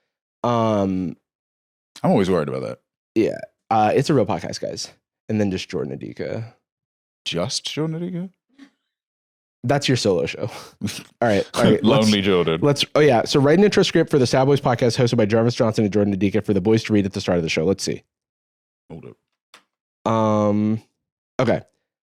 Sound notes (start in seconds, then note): 10.9 laughs; 15.1 rapidly reads the prompt